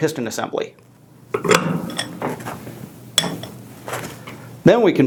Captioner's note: metal clanging